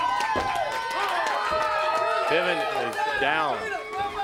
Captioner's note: crowd cheering